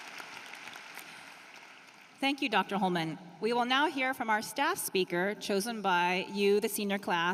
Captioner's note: applause